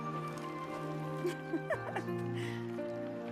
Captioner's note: laughs